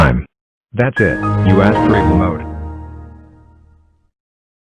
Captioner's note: Windows XP Shutdown